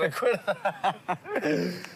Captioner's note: both laugh